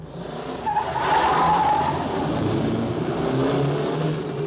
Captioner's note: screeching tyres